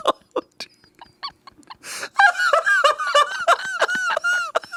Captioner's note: laughing; all laughing